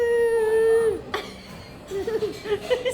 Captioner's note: laughs